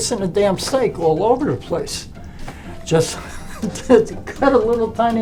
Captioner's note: laughs